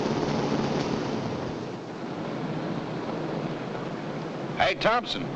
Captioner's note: machinery rumbling nearby